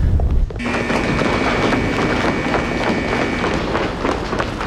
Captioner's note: alarm buzzing